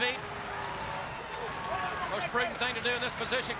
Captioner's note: crowd cheering